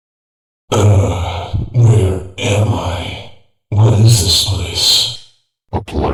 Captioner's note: groan